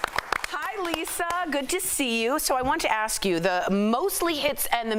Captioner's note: applause